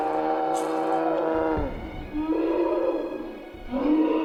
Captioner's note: Gory sound of knife stabs into Emma